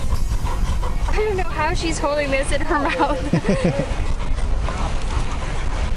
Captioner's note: laughs